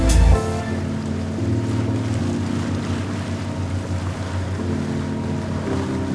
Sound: boat moving through the water

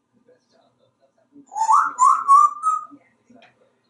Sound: whistling

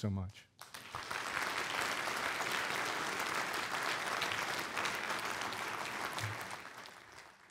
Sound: applause

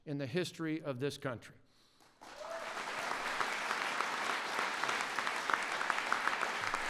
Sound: applause

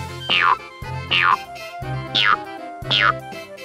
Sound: boing sounds

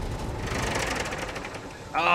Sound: engine sputters

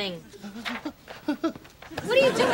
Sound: whimpering

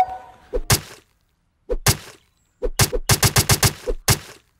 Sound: light music; zombie clicking

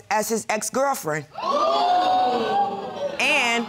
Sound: audience exclaiming

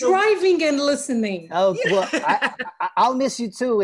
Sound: laughter

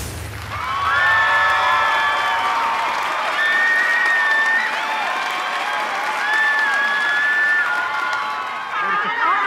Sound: screaming and applause

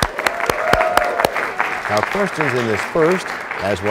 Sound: applause

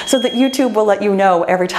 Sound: bell chiming

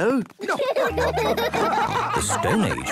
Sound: laughing

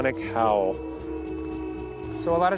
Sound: howling

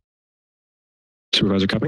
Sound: silence

